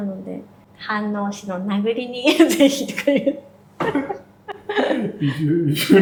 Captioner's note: laughs